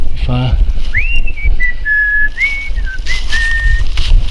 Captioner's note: whistling